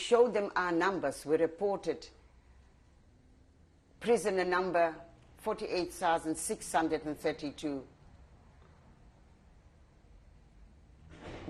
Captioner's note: pauses for 6 seconds